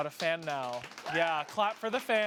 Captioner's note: audience applauds